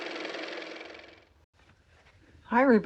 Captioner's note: car motor